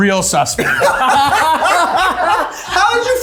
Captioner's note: everyone laughing